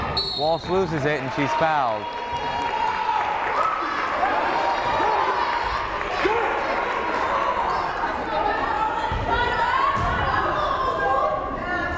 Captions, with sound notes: Walsh loses it and she's fouled. (crowd cheering and applauding) (crowd chattering)